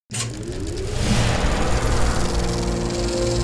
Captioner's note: projector whirring